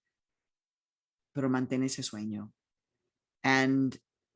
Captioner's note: speaking in foreign language